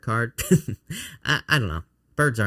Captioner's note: chuckling